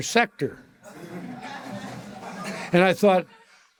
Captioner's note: audience laughter